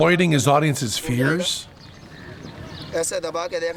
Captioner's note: non-english speech